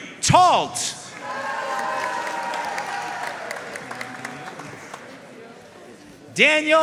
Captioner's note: audience cheering and applauding